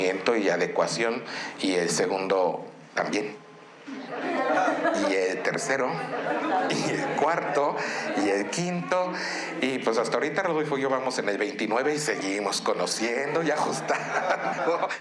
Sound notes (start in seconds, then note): 2.2 speaking in Spanish; 7.1 audience laughing